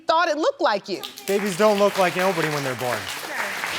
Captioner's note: audience clapping